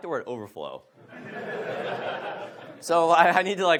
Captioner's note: audience laughs